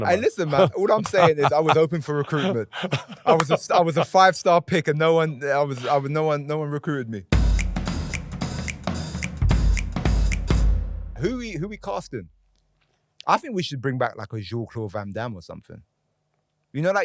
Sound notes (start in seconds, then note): 2.9 Jimmy laughing; 7.3 upbeat music